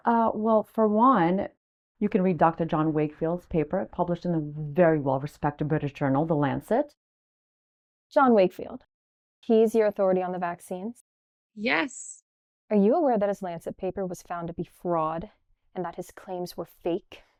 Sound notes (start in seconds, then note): none